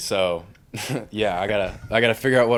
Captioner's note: chuckle